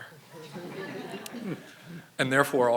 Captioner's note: audience laughing